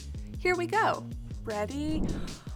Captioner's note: air whooshes